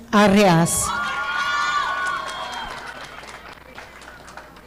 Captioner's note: audience applauding